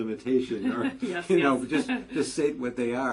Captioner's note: laugh